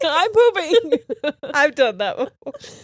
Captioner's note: laughing